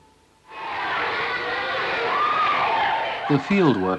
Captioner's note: audience indiscriminate chatter